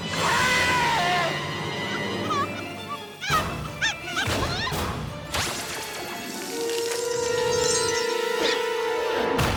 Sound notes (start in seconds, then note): 0.3 crows; 2.7 clucking; 4.6 warbling; 7.4 tinkling